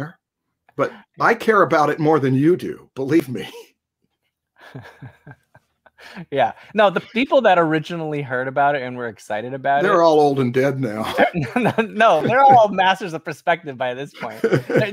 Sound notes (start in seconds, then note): 10.9 laughs